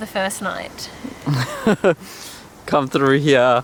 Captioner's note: laughing